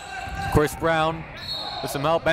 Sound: whistle blows

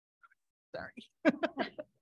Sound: laughing

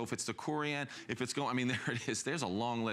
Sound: laughter

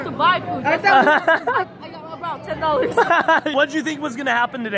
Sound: laughs

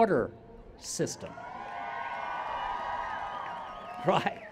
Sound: cheers

